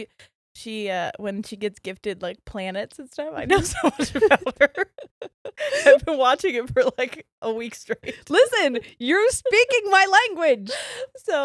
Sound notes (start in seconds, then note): 3.5 both giggles